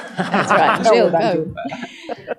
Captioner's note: laughter